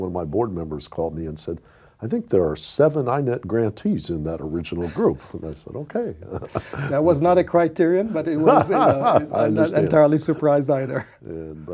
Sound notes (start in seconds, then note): 6.0 laughing; 8.0 laughs